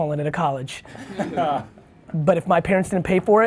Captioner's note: laughs